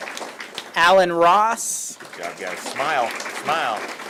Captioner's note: applause